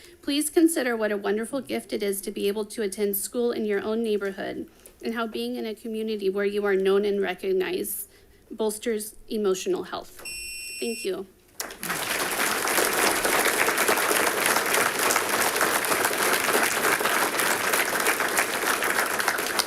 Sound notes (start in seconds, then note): 10.2 buzzer buzzing; 11.6 audience applauding